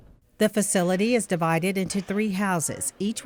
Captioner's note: voiceover